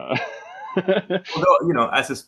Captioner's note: laughs